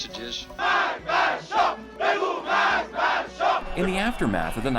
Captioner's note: chanting